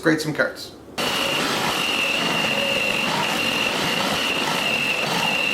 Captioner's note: machine whirring